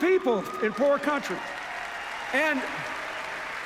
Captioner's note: cheers, applause